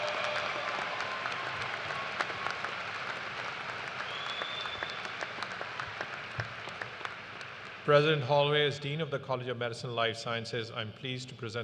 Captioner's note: cheers and applause